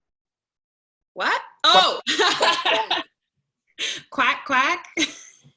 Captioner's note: laughter